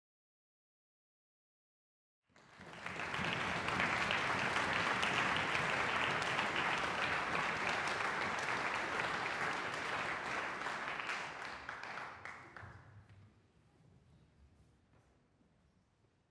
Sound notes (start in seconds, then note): 5.9 audience applause